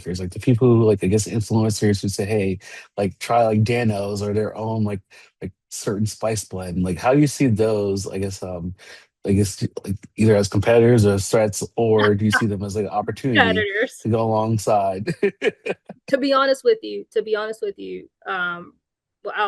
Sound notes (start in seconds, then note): 12.4 chuckles; 14.0 chuckles